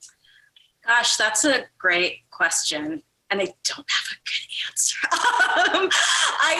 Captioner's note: laughs